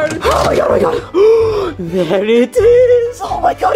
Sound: gasps

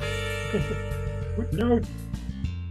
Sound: chuckles

